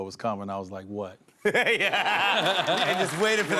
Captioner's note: laughs